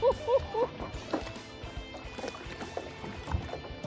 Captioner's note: laughs